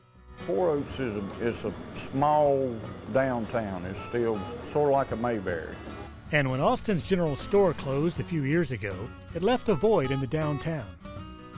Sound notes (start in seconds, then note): 6.1 voiceover